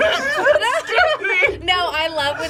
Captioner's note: laughs